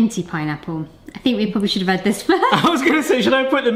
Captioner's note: laughs